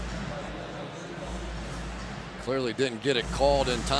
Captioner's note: pa announcement